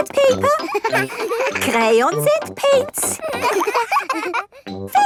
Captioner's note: all laughing